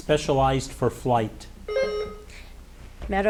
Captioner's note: buzzer ringing